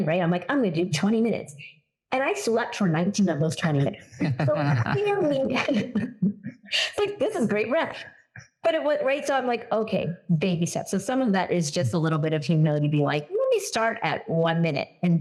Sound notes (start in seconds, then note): 3.8 laugh